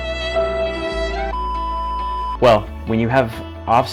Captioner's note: somber music; screen bleeps